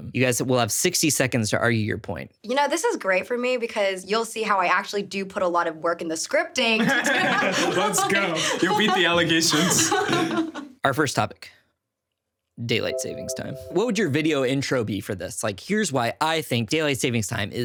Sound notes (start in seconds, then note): 6.8 everyone laughing; 12.8 text chiming